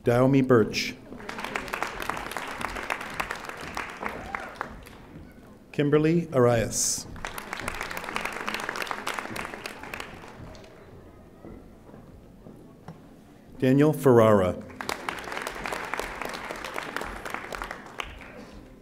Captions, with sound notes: Daomi Burch. (audience applauding) Kimberly Arias. (audience applauding) Daniel Ferrara. (audience applauding)